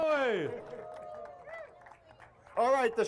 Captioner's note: crowd cheers